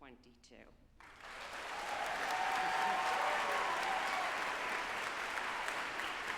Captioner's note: group applauding and cheering